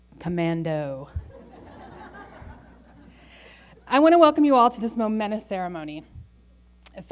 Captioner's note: laughter